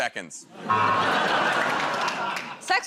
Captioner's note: laughter, buzzer